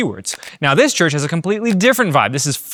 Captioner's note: camera clicking; camera clicking